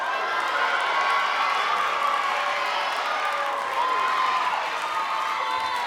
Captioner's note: audience cheering and clapping